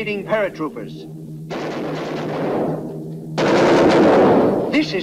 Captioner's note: guns firing